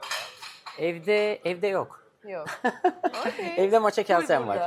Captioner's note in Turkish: kahkaha